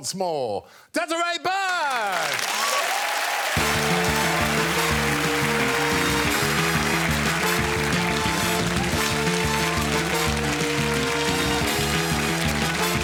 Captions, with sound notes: let's applaud the glory of tonight's winner, once more. Desiree Burch! [applause] [closing theme music playing]